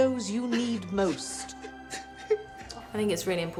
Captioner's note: woman crying